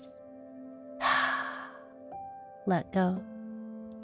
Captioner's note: heavy exhaling